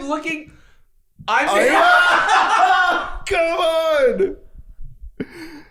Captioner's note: both laughing